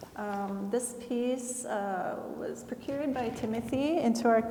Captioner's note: none